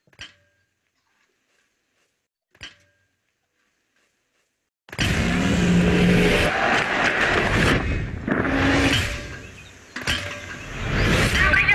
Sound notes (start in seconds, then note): 0.1 metal clanking; 4.9 engines roaring; 6.1 commotion; 8.7 metal clanking